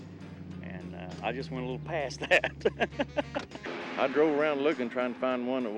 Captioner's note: laughing